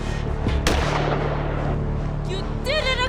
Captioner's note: gunshot